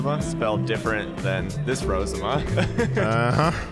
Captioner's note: laughing